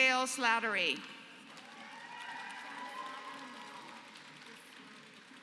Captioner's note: applause